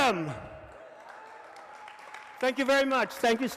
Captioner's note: audience applauds and cheers